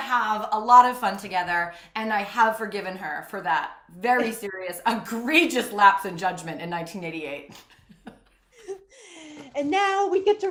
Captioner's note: laughs